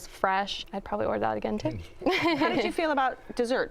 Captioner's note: laughs